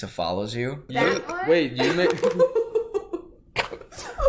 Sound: belches

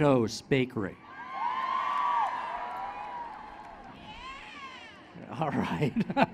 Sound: applause

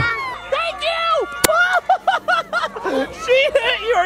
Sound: laughs

